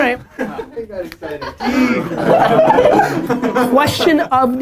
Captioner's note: laughter